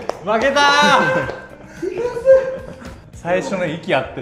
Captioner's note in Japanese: 笑い